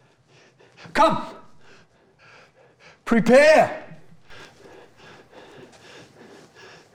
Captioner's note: panting